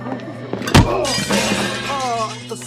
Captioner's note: both exclaim